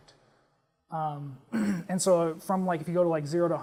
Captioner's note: cough